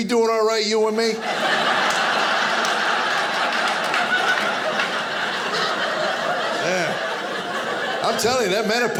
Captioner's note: audience laughing